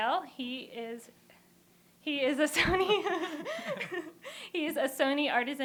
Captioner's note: laughter